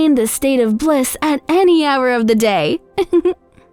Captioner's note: laughs